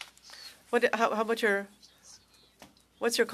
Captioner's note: speaking French